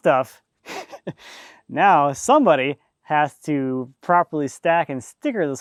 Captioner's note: laughing